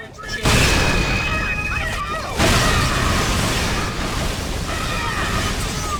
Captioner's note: explosions, grunt screams, heavy gunfire